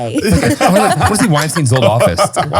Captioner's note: all laughing